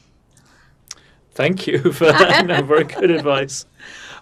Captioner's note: laughing